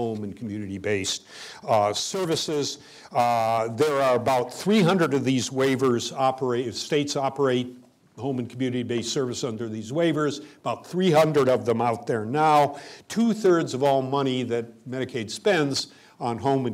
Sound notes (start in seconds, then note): none